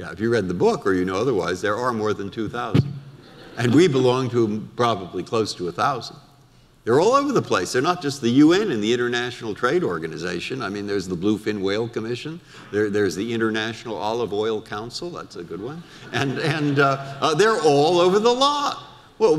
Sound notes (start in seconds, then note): 3.2 audience laughter; 15.9 audience laughter